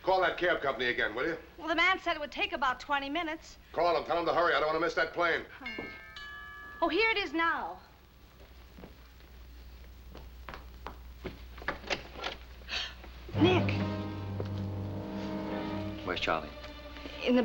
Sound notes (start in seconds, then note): 5.6 doorbell ringing; 12.6 gasps; 13.3 tense music